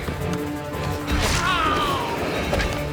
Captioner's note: groans; fires